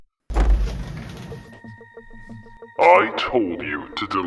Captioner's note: door slams open